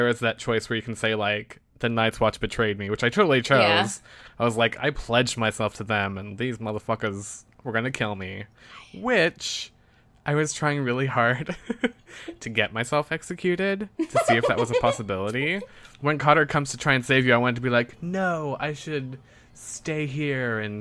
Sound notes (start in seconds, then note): 14.0 laughs